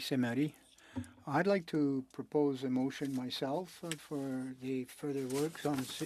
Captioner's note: speaking French